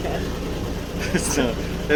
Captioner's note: laughter